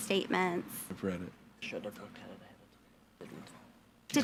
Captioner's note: speaks faintly